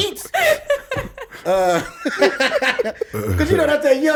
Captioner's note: laughs